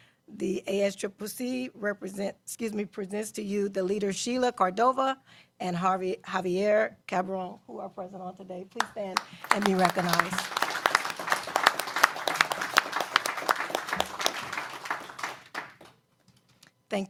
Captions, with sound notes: PROFESSIONAL PRACTICES. PRESENTS TO YOU THE LEADER SHEILA CORDOVA AND JAVIER TO STAND AND BE RECOGNIZED [ APPLAUSE ] >>THANK YOU ALL FOR YOUR